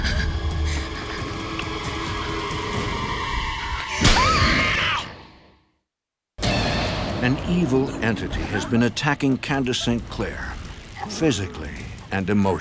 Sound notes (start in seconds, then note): 3.5 slapping; 4.0 Candace Re-Enactor screaming; 6.4 ominous music; 6.4 thunder crashing